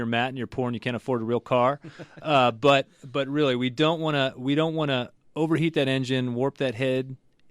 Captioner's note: laughs